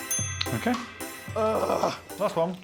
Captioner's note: dinging